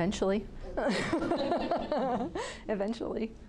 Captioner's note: group laughing